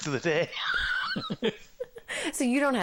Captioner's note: laughing